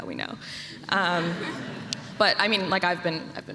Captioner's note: laughter